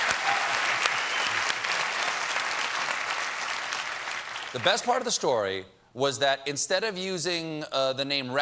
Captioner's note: applause